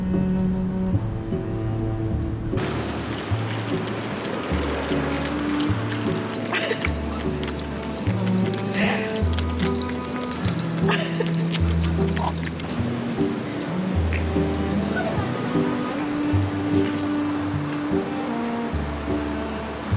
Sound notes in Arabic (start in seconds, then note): 15.6 يضحك